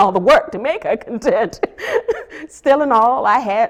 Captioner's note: laughs